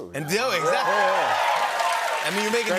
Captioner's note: cheers and applause